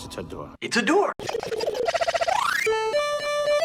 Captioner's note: chopped and stuttering sounds